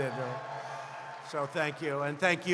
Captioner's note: applause